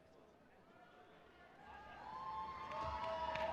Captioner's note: applause